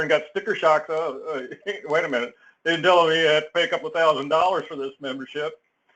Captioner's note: laugh